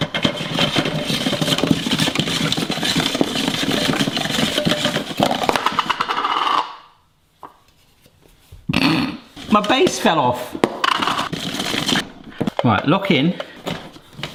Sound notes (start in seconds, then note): 0.1 spiralizer rattling; 5.3 base rattles; 8.6 snorts; 10.8 spiralizer rattling